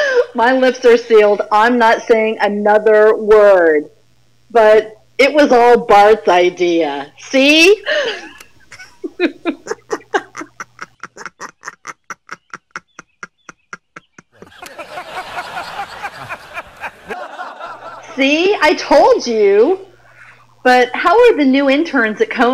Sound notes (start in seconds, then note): 7.8 laughs; 15.0 Conan laughs